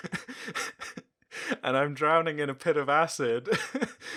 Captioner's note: cries laughing